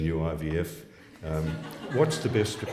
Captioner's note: laughs